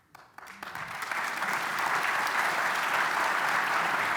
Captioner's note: applause